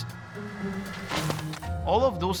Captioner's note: splats